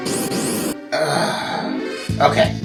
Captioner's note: annoyed sigh